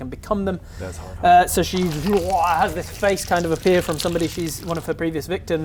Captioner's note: urghblgh